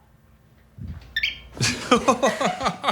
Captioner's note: bird chirps; Phil laughs